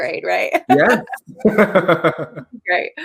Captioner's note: laughs